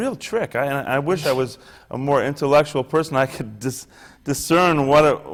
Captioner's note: laughs